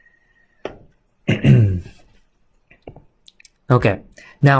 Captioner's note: clears throat